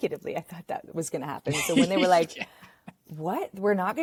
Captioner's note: laughs